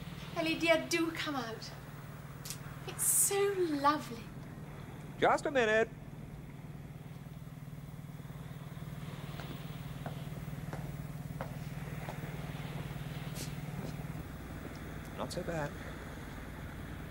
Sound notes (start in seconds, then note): none